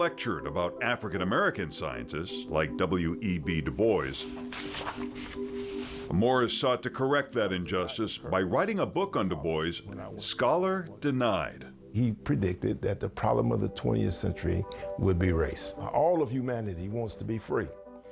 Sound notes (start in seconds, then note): 5.6 page turning